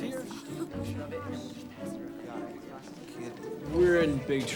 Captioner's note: students murmuring